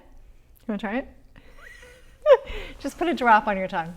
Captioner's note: laughs